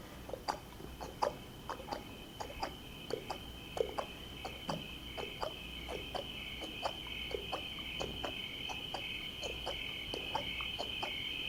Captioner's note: insects chirping; hooves clopping